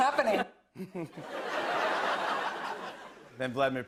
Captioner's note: laughter